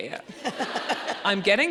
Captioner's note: audience laughing